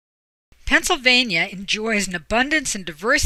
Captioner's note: voiceover